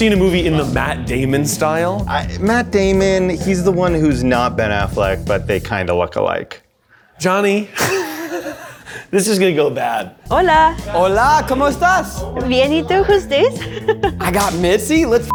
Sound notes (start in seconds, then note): 7.7 laughs; 11.9 speaks in Spanish; 13.8 laughs